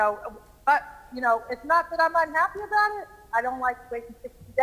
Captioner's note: ~distortion~